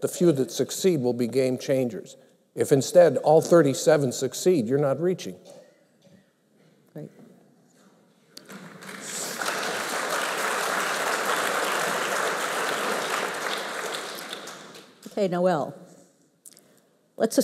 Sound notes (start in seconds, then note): 8.4 applause